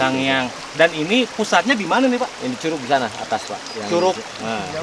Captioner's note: waterfall in Sundanese